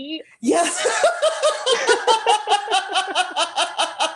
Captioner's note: laughter